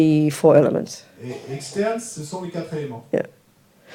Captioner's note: audience member speaks in French